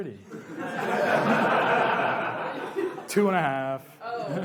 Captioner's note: laughs